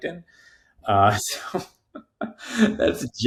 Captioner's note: chuckling